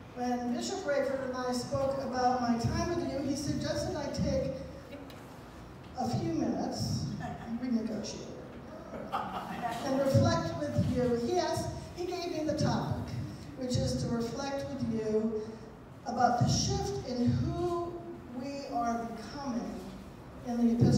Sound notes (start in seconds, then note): 8.9 laughter